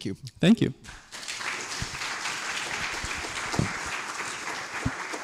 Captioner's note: applause